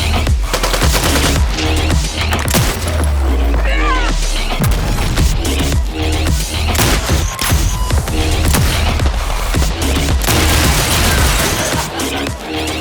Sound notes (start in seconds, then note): 1.9 guns popping; 2.4 shotgun blasting; 3.6 player screams; 4.6 grenades blasting; 5.9 upbeat electronic music; 6.7 guns blasting